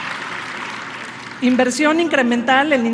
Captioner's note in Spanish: aplausos